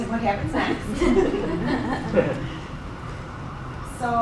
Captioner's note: laughing